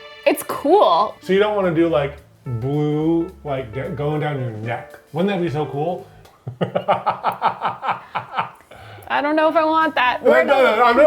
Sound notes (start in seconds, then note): 6.4 laughing